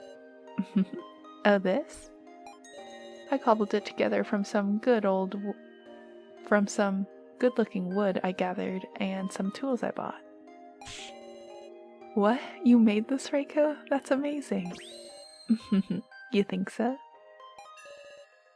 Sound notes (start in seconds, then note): 0.6 laughs; 15.7 laughs